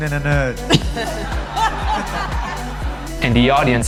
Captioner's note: laughing